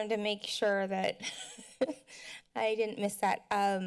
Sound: laughter

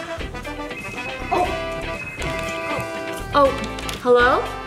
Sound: phone ringing

